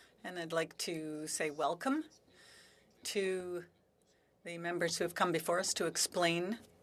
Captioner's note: speaking French